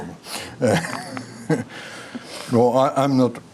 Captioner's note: laughing